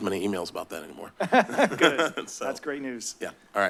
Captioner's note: chuckle